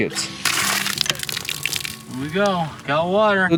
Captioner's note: water splashing